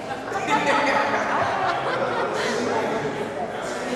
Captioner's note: laughing